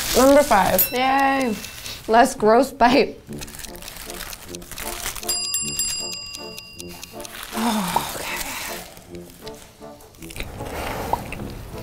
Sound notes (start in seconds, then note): 5.2 bell ringing; 6.4 playful music